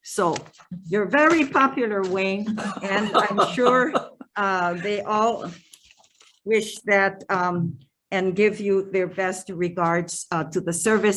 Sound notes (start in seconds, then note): 2.5 laughing